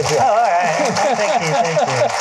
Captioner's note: applause